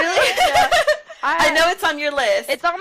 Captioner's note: laughter